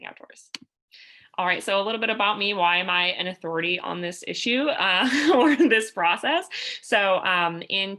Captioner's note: laughter